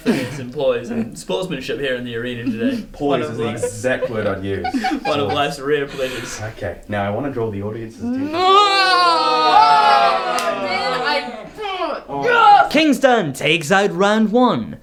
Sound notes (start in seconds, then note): 2.0 giggling; 8.0 groaning in disgust; 8.3 cheering; 11.0 victory grunt